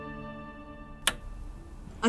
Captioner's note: TV clicks on